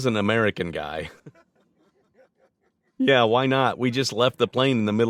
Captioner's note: all laughing